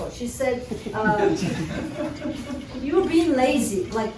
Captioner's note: laughter